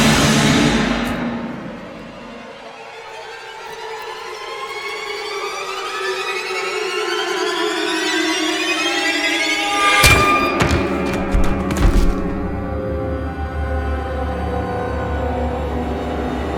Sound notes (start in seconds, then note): 2.3 unnerving music; 10.0 thudding